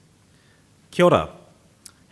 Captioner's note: speaking foreign language